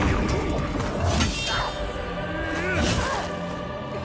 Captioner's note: grunting